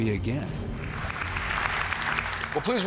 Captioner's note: applause